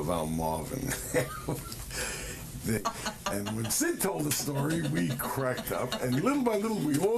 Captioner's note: laughter